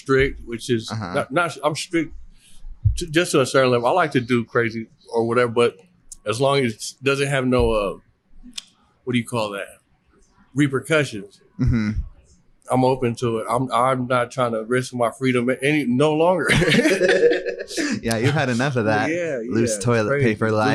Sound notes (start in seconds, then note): 16.4 laughs